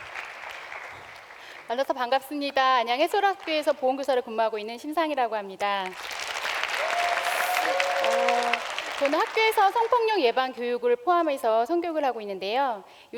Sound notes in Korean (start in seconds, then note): 0.0 박수와 환호; 5.8 박수와 환호